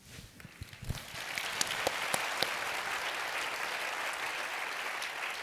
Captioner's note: audience applauding